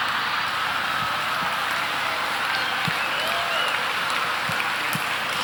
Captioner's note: audience laughing